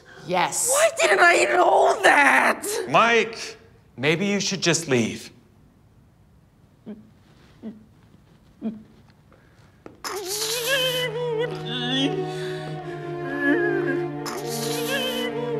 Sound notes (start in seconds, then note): 10.1 muffled whimpers; 13.3 sobbing; 14.8 sad music; 14.8 sobbing